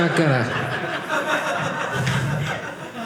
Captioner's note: audience laughing